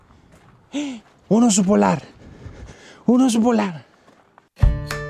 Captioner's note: gasp